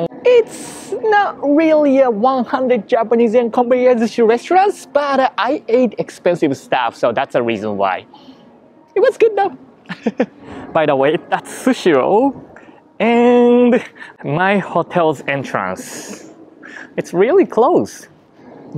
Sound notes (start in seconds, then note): 9.8 laughs